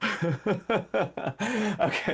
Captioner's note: laughter